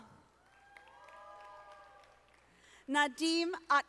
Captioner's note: audience applauding